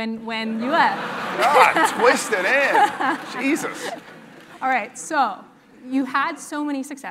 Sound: laugh

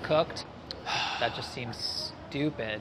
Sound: sighs

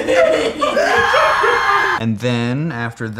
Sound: instant Screaming Again

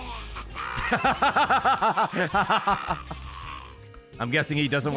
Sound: laughs

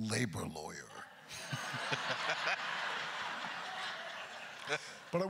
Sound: crowd laughter; laughing

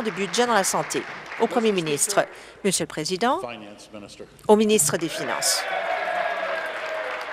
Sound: applause

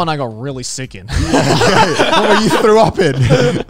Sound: everyone laughs

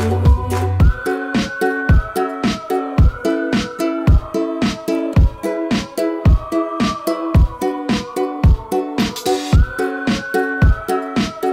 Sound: whistling

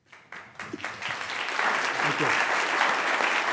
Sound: audience clapping

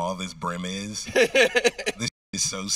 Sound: host laughing

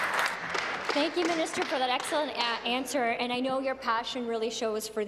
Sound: applause

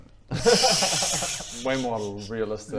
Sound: unsympathetic laughs

